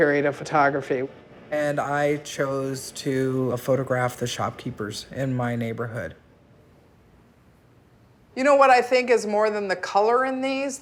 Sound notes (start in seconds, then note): none